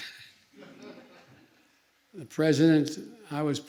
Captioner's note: laughter